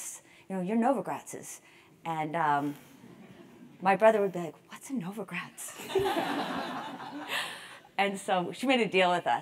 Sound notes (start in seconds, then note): 5.8 laugh